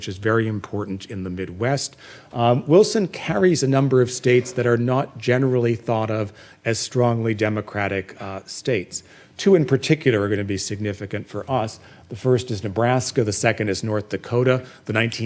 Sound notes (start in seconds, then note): none